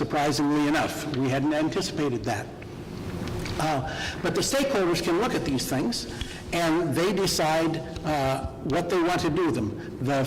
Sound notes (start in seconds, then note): none